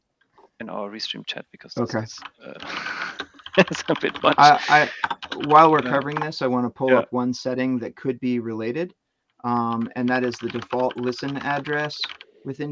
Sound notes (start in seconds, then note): 2.4 chuckles